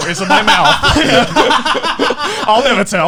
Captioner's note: laughing loudly